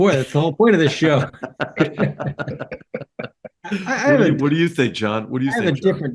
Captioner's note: laugh